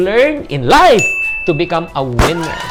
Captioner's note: chime; cheers